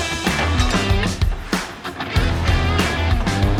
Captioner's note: metal Clanking